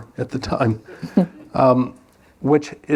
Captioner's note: laughter